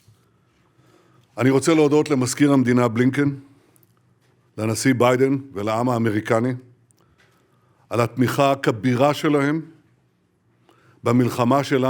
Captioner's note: in Hebrew